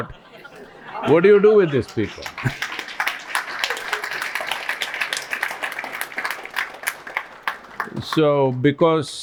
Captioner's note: laughter; applause